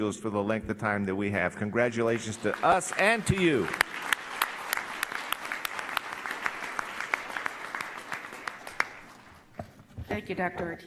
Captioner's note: applause